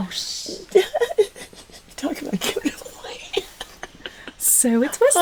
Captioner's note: laughing